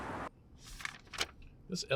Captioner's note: papers rustling